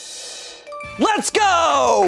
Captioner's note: drum roll hisses; bell chimes